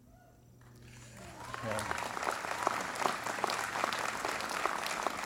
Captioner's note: applause